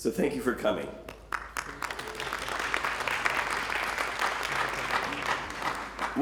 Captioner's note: applause